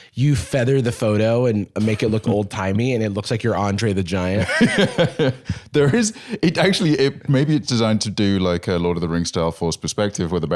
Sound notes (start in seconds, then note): 5.0 laughs